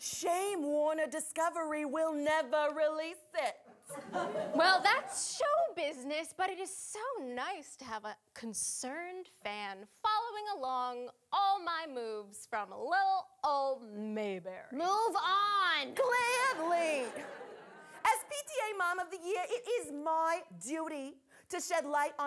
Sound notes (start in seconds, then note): 16.4 audience laughing